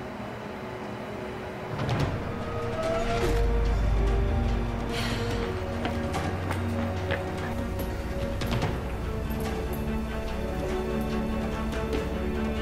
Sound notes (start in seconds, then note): 2.5 wheezing; 4.9 sigh; 5.0 footsteps